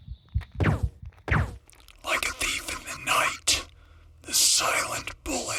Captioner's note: creaking foot steps; heart beating fast; silenced gun shots